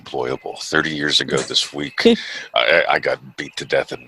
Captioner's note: chuckles